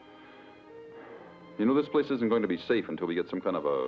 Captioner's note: sighs